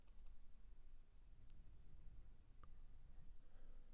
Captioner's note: mouse clicking